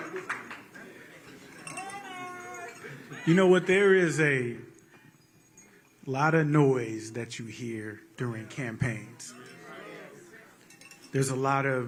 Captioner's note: applause